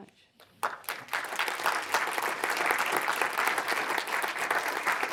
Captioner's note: audience applause